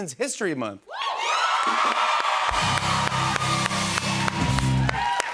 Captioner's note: cheers and applause; musical sting